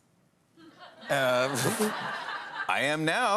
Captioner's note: laughter